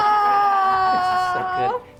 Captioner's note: awing